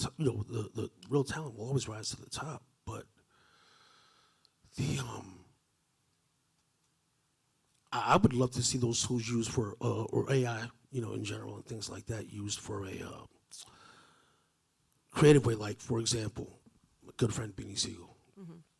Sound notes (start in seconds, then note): none